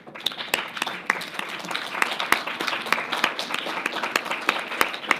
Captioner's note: audience applauding